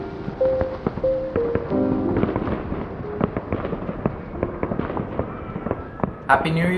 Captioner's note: distant fireworks